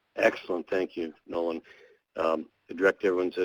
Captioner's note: voiceover